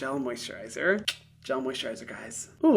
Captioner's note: clicks tongue